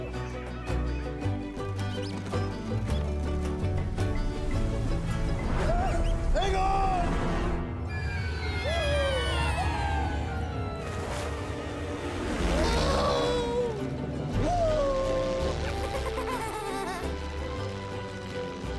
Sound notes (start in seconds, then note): 12.6 airplane buzzes; 15.6 child giggling